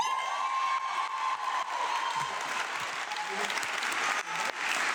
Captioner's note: audience clapping